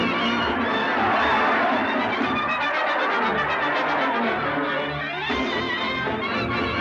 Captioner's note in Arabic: هتاف الجمهور; موسيقى حماسية مستمرة